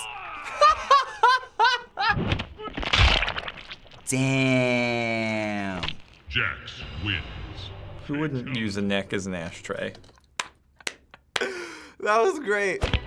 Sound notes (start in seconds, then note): 0.4 laughs uproariously; 2.7 neck snaps and spurts; 10.0 stifled laugh